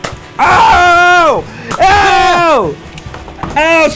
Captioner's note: yelling